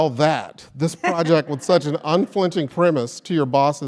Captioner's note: laugh